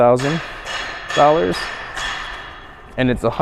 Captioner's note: tools clang